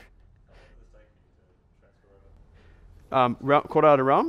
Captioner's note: voiceover